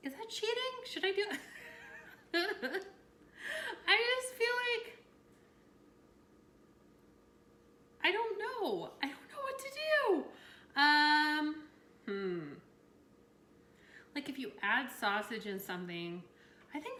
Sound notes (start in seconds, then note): 1.6 laughs